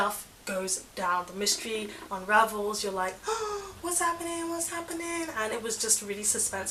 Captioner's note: gasp